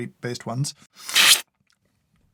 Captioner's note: slurp